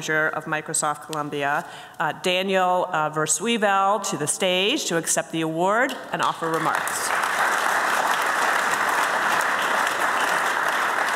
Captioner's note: applause